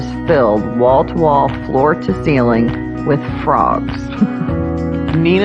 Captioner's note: lauaughing